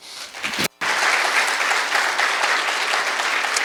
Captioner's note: applause